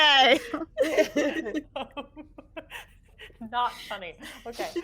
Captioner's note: people chuckling